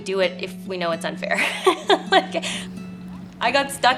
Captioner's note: laughing